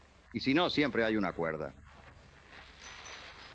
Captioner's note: none